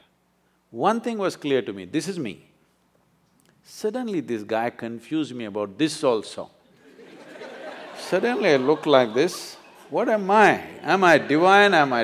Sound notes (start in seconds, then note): 6.8 laughter